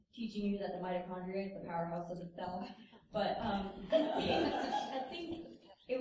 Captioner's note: laughter